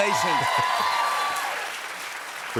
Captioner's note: cheers and applause